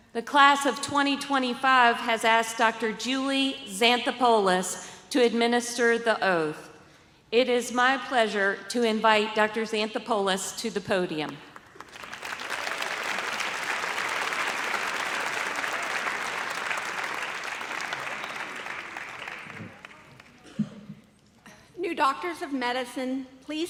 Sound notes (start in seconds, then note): 11.6 audience applauds